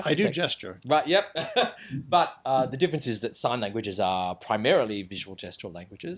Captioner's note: laughs